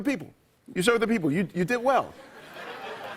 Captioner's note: laughter